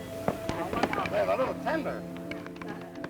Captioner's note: chatter